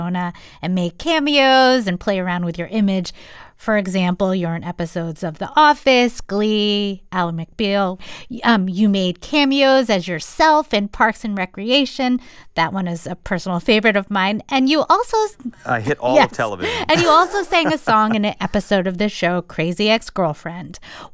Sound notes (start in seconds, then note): 16.3 laughter